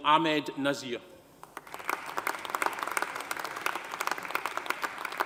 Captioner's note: audience applauding